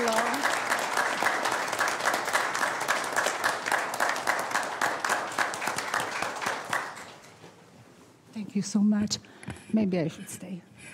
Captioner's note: applause